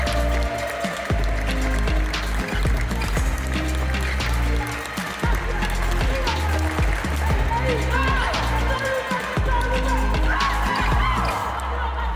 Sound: applause; ♫ Midtempo guitar music ♫

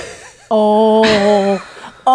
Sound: guffaws

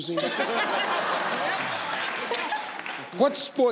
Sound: audience laugh

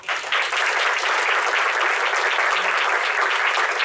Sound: clapping

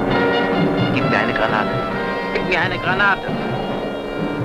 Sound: German spoken audio

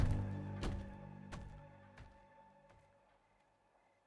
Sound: footsteps fade

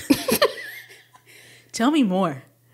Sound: speakers giggling

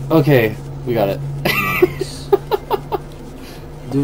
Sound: laughing

